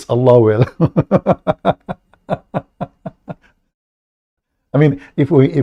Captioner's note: Ketawa